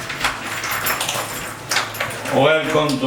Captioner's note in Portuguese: Porta sendo aberta